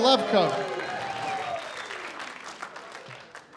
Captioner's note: cheering and applause